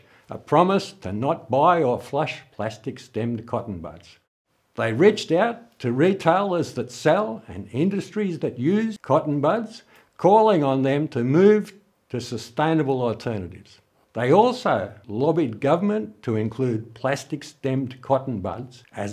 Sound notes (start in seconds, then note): none